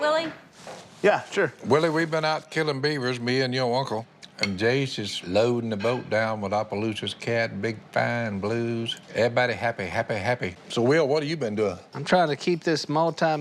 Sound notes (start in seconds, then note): none